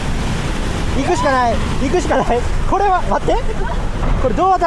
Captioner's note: laughs